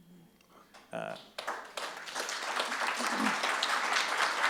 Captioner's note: audience claps